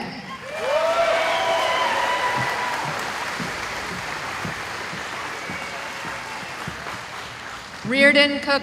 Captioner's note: cheering